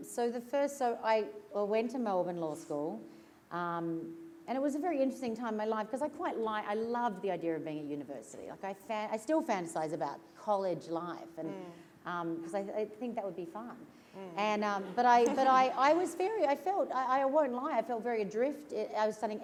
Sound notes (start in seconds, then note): 15.2 laughter